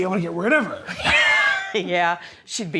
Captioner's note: laughter